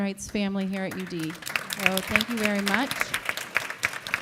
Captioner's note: audience applauding